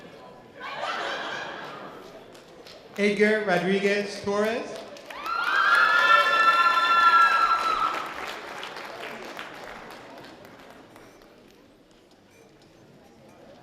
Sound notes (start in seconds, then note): 0.6 light laughter; 5.0 loud audience cheering